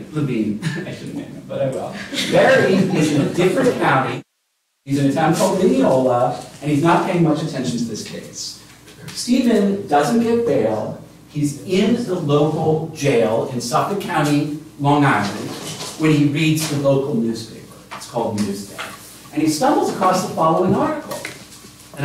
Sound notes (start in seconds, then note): 1.8 chuckles; 1.9 laughter